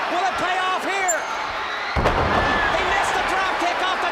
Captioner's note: crowd chatter